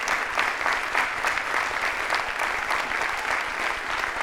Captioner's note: audience applauding